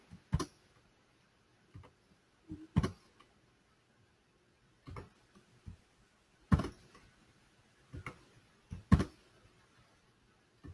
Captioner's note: computer clicking sounds